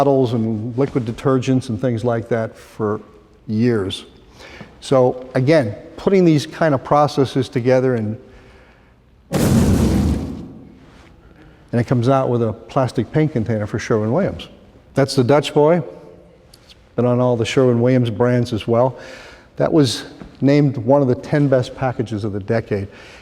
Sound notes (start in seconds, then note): 9.3 explosion